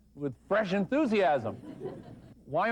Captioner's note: laughter